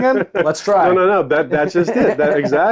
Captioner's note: laughs